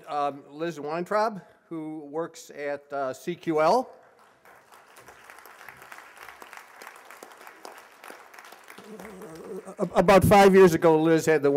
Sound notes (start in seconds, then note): 5.2 applause